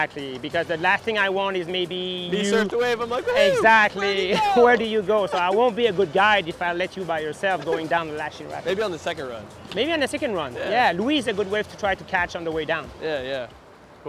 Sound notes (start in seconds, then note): 2.4 laughs; 7.4 laughs